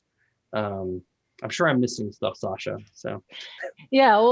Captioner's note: laughs